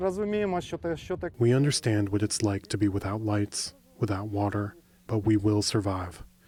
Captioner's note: through translator